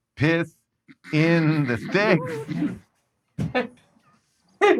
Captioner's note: group snorts